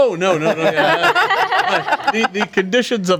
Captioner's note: group laughs